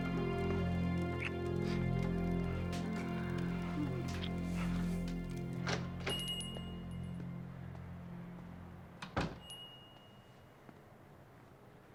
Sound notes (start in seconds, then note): 6.2 door opening; 9.0 door closing